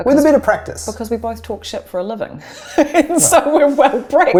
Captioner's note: laughs